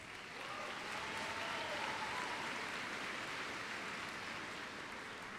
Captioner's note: applause